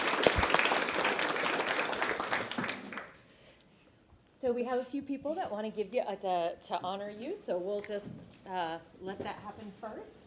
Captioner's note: applause